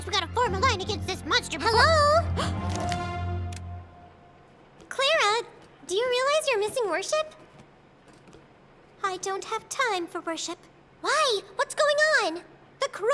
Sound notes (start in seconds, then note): 2.2 Clara gasps